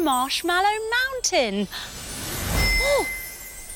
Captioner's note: magical chime